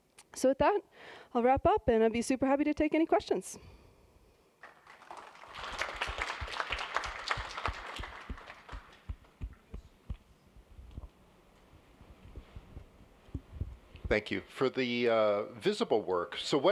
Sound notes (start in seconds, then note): 4.6 applause